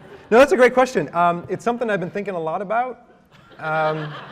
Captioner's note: laughter